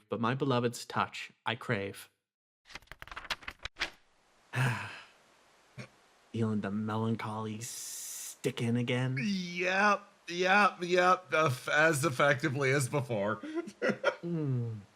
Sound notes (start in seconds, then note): 4.5 Etete Sighs; 13.4 laugh